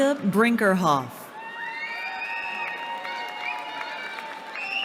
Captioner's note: cheering